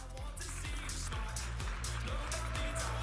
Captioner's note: audience applauding and cheering